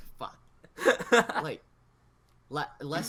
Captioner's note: laughs